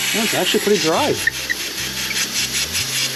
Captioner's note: drill whirring